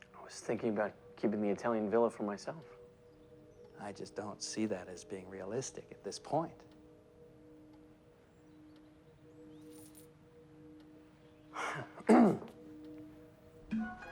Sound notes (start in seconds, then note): 11.6 clears throat